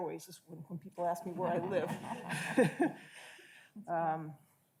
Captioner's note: audience laughs